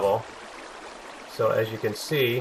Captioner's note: water flowing